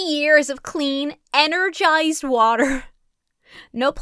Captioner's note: chuckles